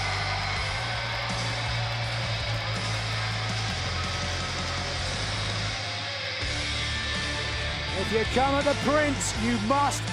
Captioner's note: crowd cheering